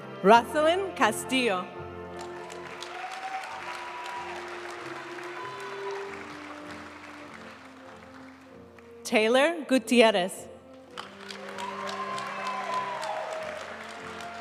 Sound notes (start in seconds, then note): 2.2 audience cheering and applauding; 5.3 graduation music; 11.0 audience cheering and applauding